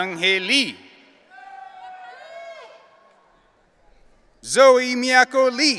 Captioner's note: audience cheering